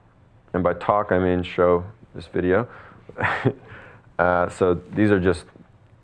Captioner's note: chuckles